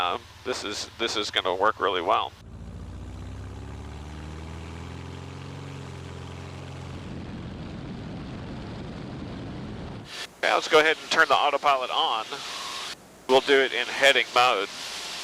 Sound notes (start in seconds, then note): 5.2 airplane engine roaring; 7.8 air whooshing